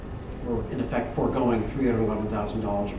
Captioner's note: none